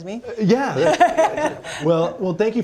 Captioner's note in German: lachen